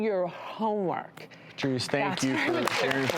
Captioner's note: applause